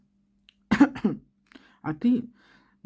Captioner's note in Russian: откашливается